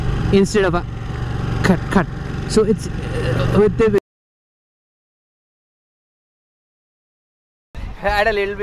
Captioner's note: suddenly coming on- power surge